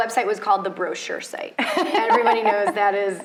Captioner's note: laughs